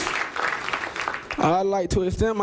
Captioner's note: applause